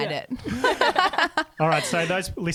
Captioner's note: laughing together